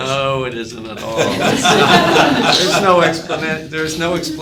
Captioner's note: people laughing